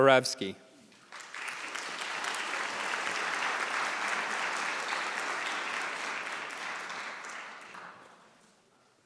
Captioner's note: applause